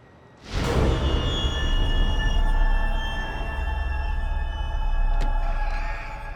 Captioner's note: loud sinister music; face whooshing; door latch clicks